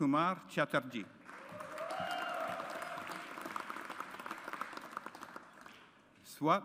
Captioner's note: audience applauds